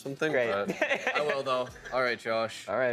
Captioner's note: laughing